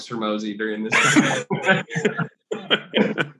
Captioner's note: laughs